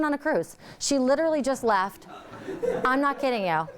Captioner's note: audience laughing